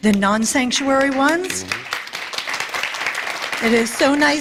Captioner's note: applause